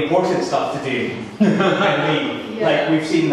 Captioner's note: audience laughing